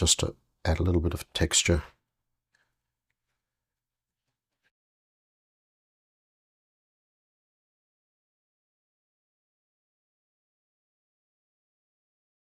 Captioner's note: silence